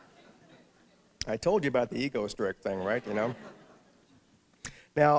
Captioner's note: laughter